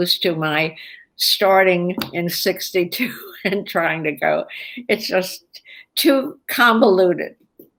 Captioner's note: laughs